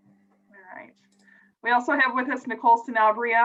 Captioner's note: clicking